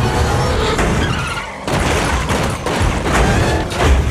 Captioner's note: vault thudding